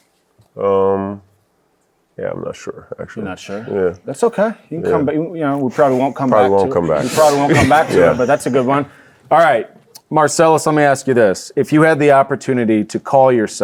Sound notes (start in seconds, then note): 5.7 audience laughing